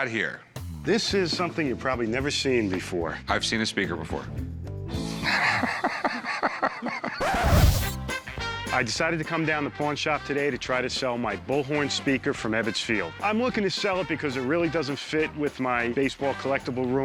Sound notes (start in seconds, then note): 4.5 needle scratch; 5.2 laughs